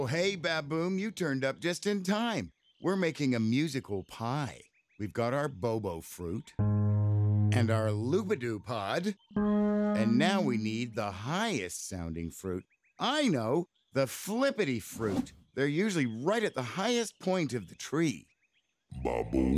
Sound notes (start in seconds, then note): 6.6 low pitched honking; 9.3 high pitched honking